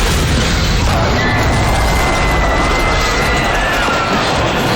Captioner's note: crowd screaming